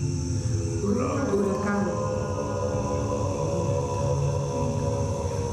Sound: speaks in foreign language

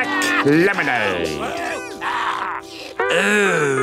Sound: customers groaning

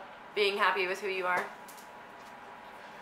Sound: none

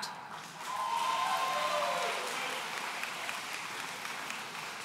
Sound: audience cheering

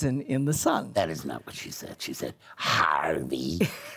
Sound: in a deep voice

